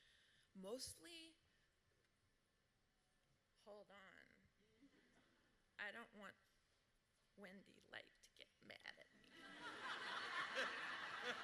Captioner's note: laughter